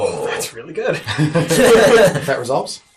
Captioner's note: all laugh